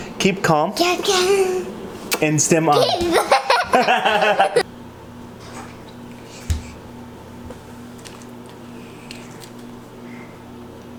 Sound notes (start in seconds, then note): 2.7 laughs; 2.8 both laughing